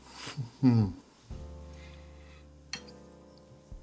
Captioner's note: Tim grunts